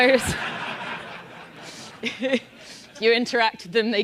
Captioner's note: laugh